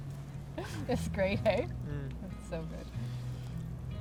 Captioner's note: gentle music; laughs